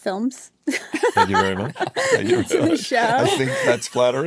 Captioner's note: laughs